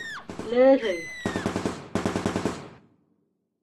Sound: gunning, screaming and carnage

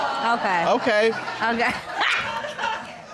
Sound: laughs

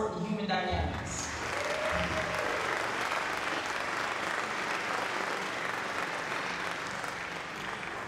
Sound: applause

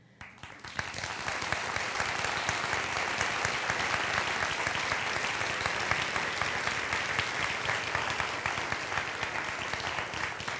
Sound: applause

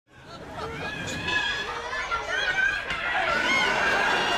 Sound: children screaming

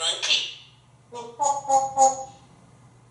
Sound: monkey sounds

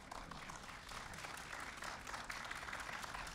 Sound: applause

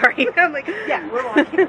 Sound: laughs

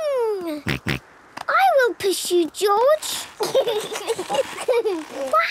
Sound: snorting; kids giggling

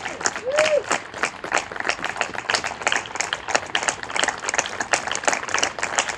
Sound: applause and cheering continue

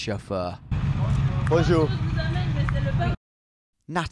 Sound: speaking in a foreign language

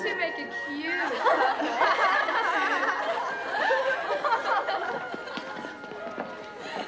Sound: laughter

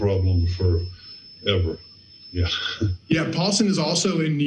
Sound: laughs

